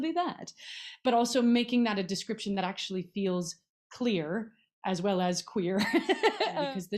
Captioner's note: laughs